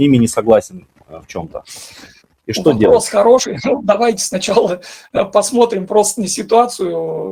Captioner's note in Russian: фыркает